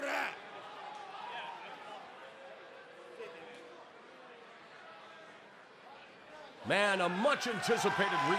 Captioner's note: speaking foreign language